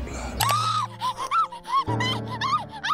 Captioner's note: Petunia gasping; Petunia screaming